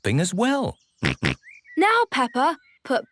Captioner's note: snorts